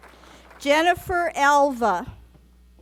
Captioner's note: applause